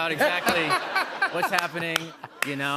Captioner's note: laughter